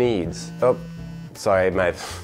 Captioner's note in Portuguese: celular vibra